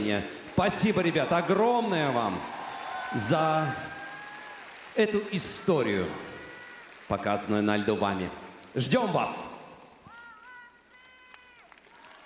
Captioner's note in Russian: ликование